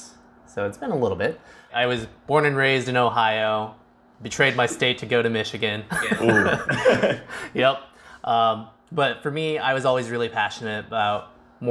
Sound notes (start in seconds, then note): 6.0 laughs